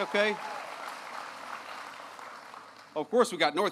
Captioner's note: applause